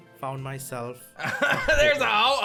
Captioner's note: chuckles